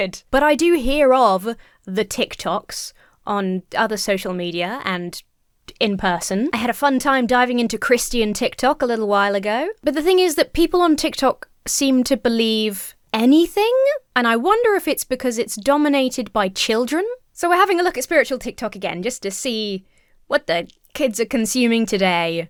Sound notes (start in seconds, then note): none